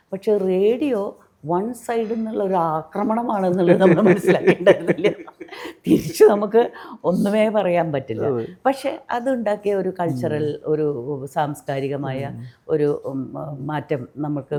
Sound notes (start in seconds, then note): 3.6 laughs